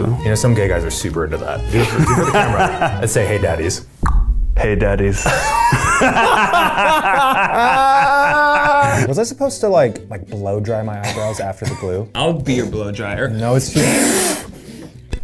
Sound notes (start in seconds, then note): 1.7 laughing; 3.8 clicks tongue; 5.2 both laughing; 13.7 blowing